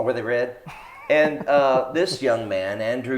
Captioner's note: laughs